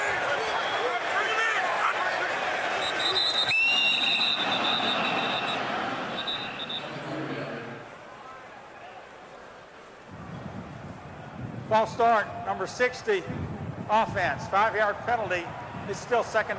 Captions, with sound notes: [whistle blowing] [stadium announcements] False start, number 60, offense, 5-yard penalty.